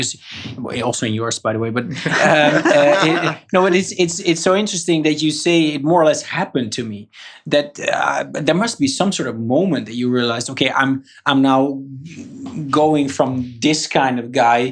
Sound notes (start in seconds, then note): 1.7 laughs